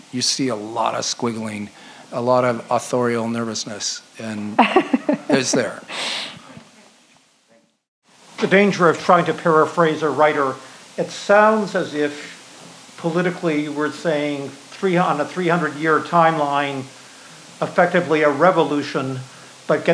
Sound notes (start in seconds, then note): 4.4 laughs